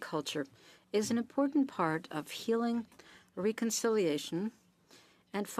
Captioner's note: speaking French